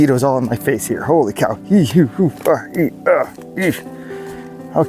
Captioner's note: manly fleeing sounds